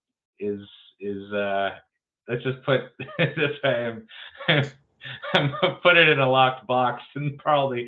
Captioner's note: laughs